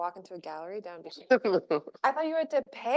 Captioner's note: chuckles